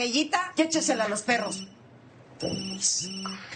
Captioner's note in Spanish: Suena el celular